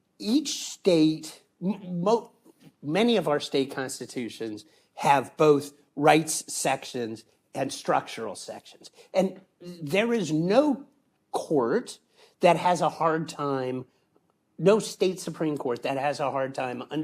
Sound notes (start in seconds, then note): none